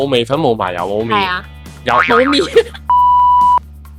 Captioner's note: laughs